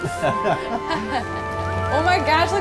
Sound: laughing

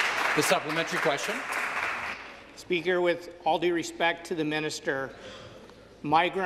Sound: some Applause

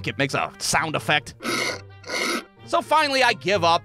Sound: grinding noise

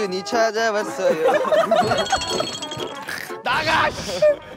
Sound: they all burst out laughing

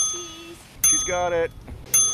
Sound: ding; ding

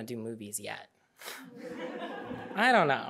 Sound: audience laughing

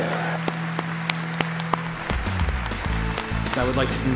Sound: students clapping at commencement

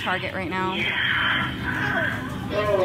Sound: intercom: sensual moaning; woman on intercom; over intercom: woman moans sensually

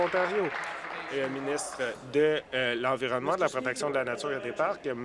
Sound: applause

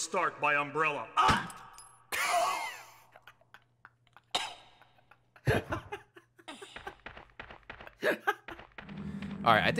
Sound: laughs

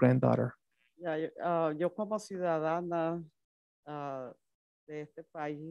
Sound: speaks Spanish

